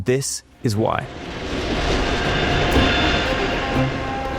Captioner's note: track rattling; train horn blaring; truck horn blaring